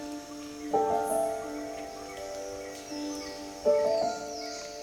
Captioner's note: gentle piano music playing; birds chirping